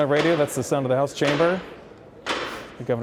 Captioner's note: gavel pounds